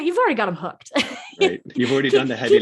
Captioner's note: laughing